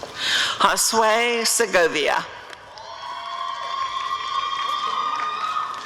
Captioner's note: applause and cheering